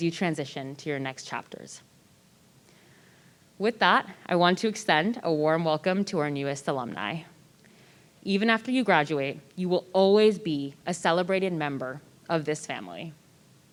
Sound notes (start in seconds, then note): none